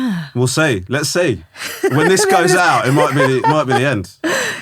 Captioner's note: laughing